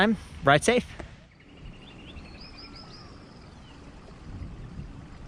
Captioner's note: birds chirping